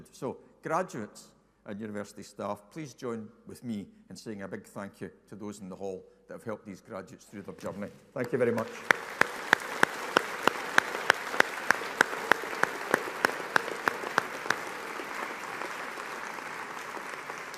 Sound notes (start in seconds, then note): 9.1 audience applauding